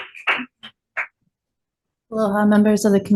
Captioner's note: constituent clapping